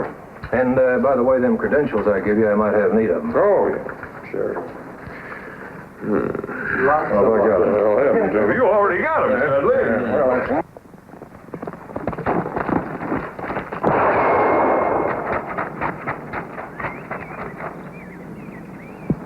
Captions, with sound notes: - Sure. - And by the way, them credentials I gave you, I might have need of 'em. - Oh yeah, sure. - Although I got it. - You already got it, man. (horse galloping) (gunfire blasts)